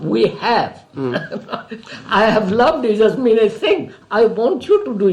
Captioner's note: laughs